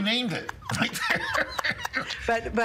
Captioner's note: both laughing